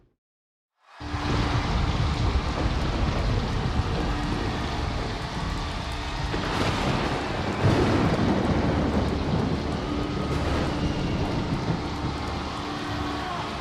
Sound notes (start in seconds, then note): 1.3 audience cheers; 7.7 thunder rumbles; 10.3 audience cheers